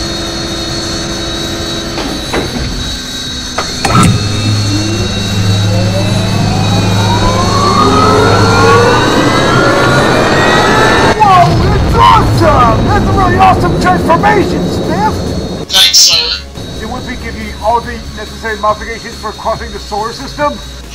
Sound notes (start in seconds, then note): 4.9 SPFT's rocket engines fire up